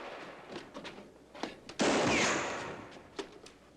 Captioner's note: bullet ricochets; gunshot